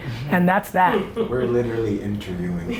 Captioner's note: laughing